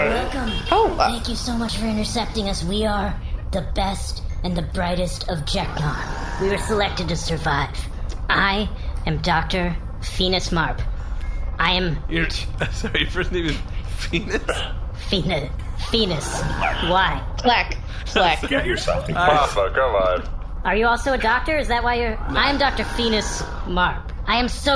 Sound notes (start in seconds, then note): 12.1 laughing; 19.8 Pleck giggling